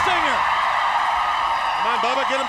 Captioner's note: crowd cheering